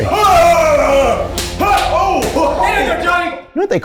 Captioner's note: screams